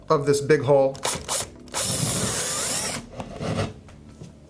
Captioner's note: drilling